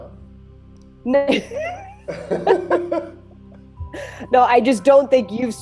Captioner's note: both laugh